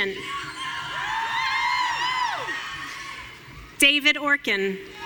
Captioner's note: audience cheering